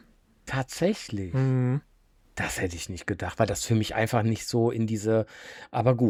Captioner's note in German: räuspern